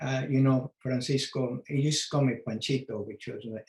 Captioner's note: speaks foreign language